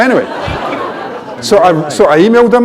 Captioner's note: laughter